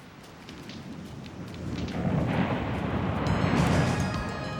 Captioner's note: waves crashing; dramatic music